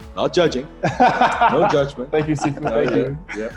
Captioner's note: laughing loudly